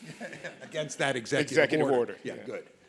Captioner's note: laughs